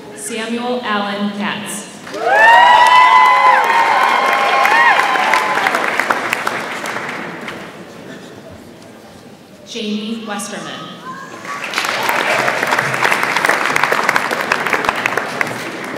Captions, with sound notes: Samuel Allen Katz. (audience applauds and cheers) Jane Westerman. (audience applauds)